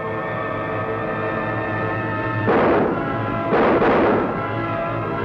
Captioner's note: gunshots